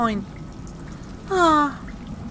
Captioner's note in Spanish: Suspiro